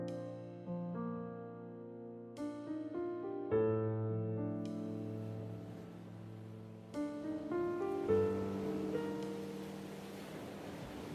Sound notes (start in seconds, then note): 0.2 gentle piano music; 4.9 waves swooshing